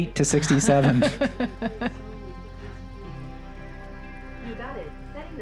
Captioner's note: laughs